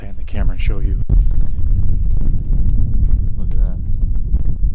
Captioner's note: wind fluttering